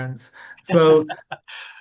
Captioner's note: laughs